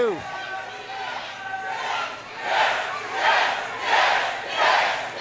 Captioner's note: audience chants